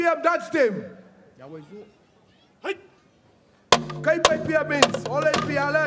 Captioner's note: speaks indigenous language